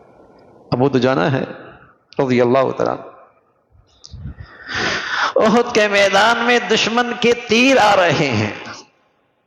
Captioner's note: sighs